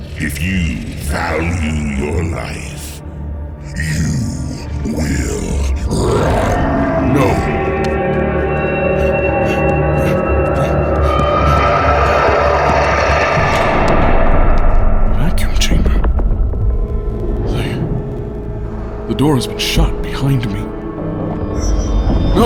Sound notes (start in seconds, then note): 14.3 sudden closing of heavy metal door; 14.3 wolf roaring, panicked running footsteps